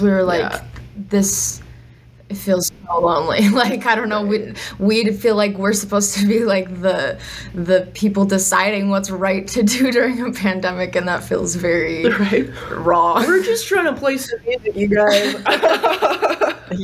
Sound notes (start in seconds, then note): 3.3 laughs; 12.0 chuckles; 15.0 laughter